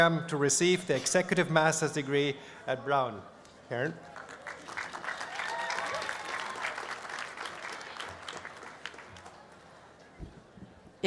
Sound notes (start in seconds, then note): 7.0 applause